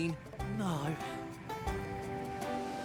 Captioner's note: sigh